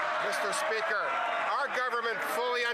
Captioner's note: some Applause